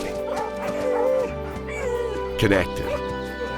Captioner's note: whines; dogs barking